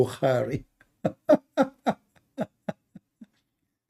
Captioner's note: Ketawa